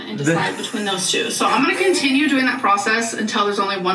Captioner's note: laughs